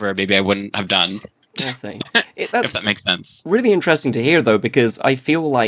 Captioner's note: laughs